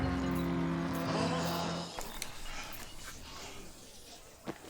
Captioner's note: crowd gasps